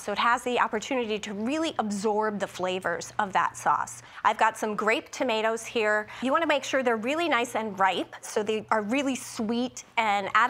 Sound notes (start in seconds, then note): none